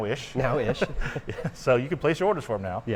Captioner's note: laughing